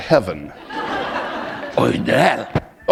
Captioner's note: laughter